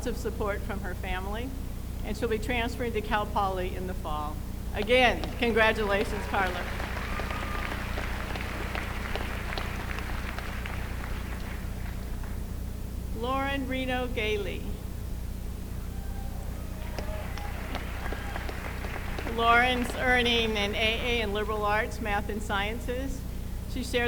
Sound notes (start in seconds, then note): 8.0 applause; 16.7 applause